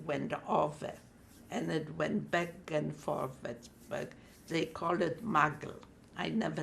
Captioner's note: non-english